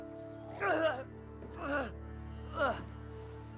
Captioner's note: groaning